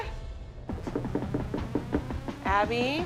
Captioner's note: knocking on door